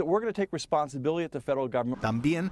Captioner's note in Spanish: habla en inglés